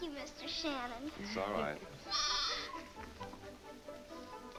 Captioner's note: goat bleating